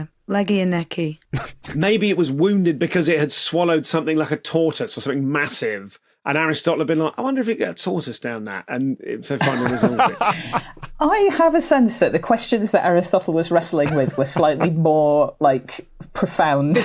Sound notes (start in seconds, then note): 1.4 snickers; 9.3 laugh